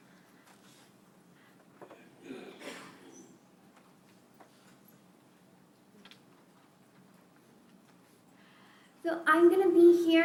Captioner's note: silence